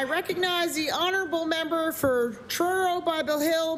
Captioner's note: applause